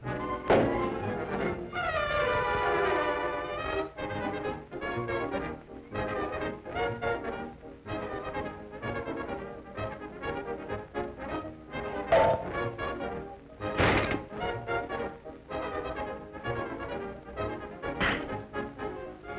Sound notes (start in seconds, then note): 11.8 door bangs; 15.7 frantic orchestra music